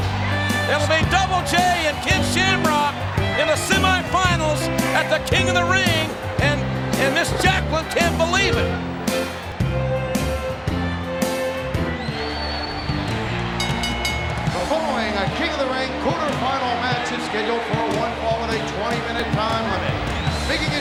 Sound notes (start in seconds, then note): 8.7 calm country music; 11.9 energetic music; 13.4 bell ringing